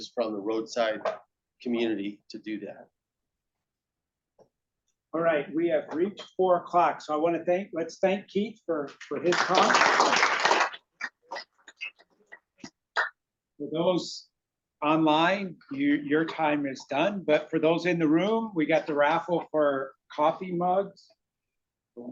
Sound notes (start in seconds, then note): 9.3 audience applauding